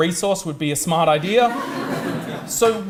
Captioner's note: audience laughs